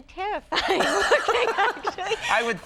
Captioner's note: both laughs